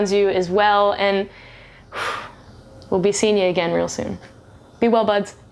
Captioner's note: sighs